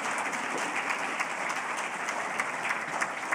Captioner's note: applause